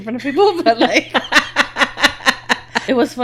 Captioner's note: laughing